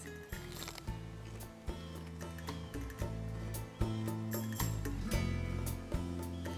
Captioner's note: mellow acoustic music; pepper crunches